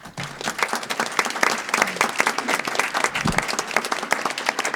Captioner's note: audience applause